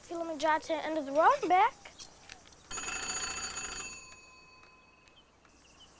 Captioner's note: phone ringing